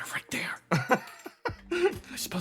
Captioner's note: laugh